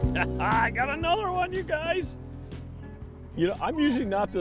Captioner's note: laughing